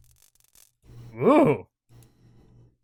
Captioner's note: whew